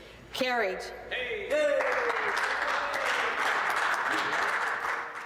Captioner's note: cheering